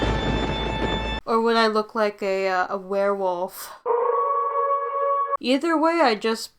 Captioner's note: A wolf howling